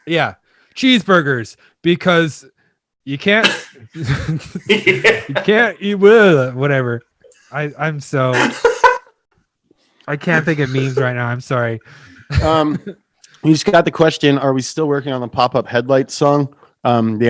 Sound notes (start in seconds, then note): 8.3 laughing